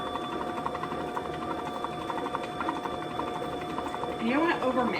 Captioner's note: mixer whirling